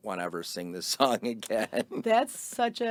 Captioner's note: laughing